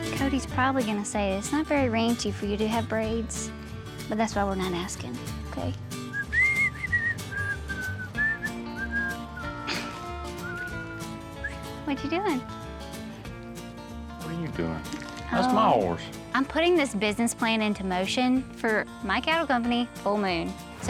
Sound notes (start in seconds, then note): 6.0 whistling; 9.6 laughs